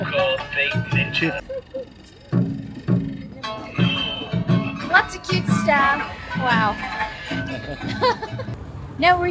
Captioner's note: laughter